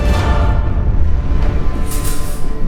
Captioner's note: metal rattling